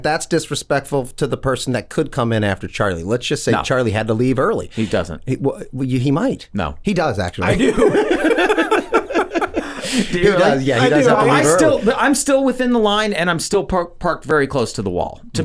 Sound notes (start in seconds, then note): 7.4 all chuckling